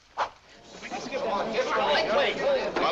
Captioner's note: audience exclaims